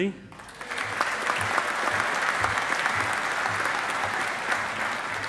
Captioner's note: audience applauding